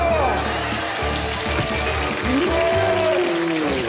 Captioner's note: applause